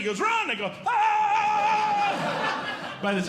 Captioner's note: yelling; audience Laughing